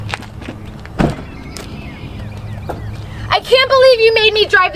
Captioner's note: door slammed